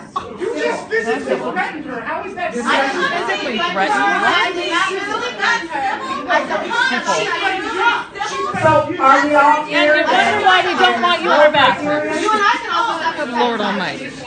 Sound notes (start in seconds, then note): 4.9 incoherent yelling; 11.0 incoherent yelling